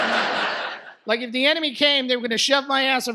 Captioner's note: audience laughs